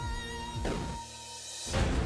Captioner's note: thud